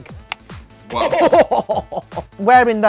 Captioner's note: Baga chuckles